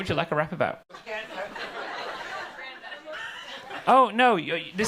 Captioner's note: audience laughing